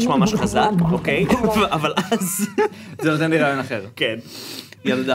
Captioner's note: snickers